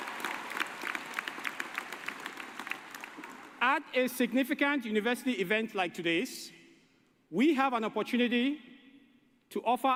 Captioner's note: applause